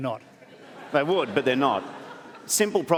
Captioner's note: laughter